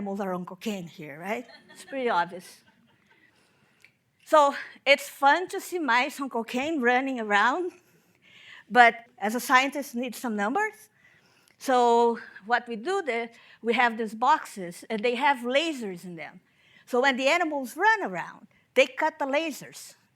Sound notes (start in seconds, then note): 1.4 audience laughing